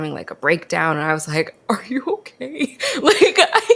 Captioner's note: laughs